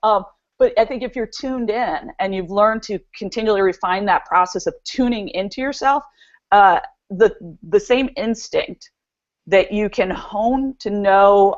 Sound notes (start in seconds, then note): 9.7 stutters